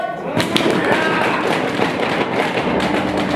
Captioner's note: applause